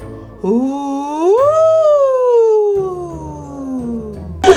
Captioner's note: spooky sounds